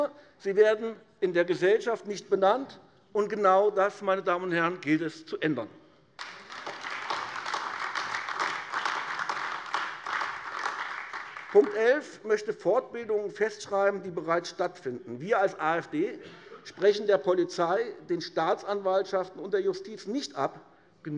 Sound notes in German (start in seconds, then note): 6.1 Beifall AfD